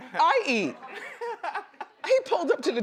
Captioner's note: laughs